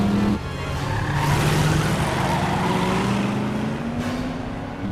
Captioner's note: tires squealing